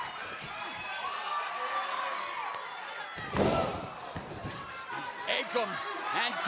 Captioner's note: crowd cheering